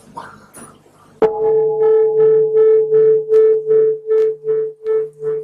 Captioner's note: bell